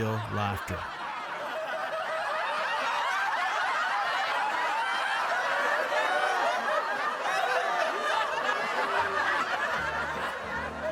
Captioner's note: laughter